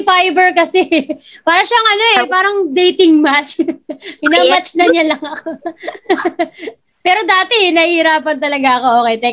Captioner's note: laughs